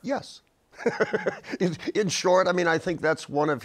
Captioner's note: laughs